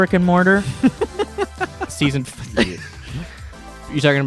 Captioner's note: laughing